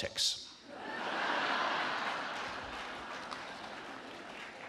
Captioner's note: audience laughing